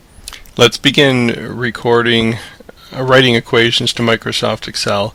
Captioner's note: voiceover